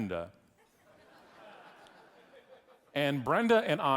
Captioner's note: audience laughing